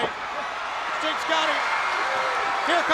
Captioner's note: crowd cheering